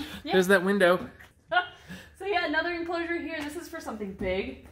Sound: chuckles

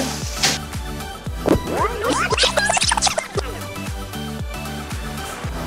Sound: upbeat music; video tape whining

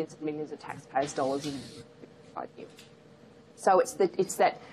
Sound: audio cuts out

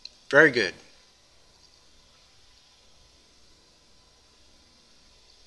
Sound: pause

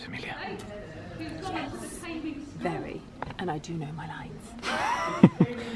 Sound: laughter

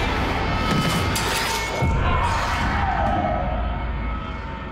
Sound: scary music; muffled screaming; scary music

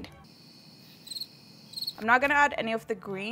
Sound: birds chirping

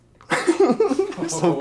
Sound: laughter

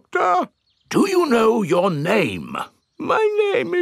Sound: in teddy's voice; in normal voice; in teddy's voice

